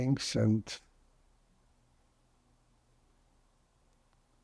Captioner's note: pauses 8 seconds